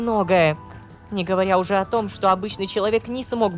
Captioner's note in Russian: шепотом